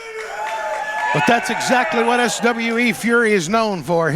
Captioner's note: crowd cheering